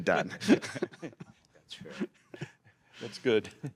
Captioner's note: laughter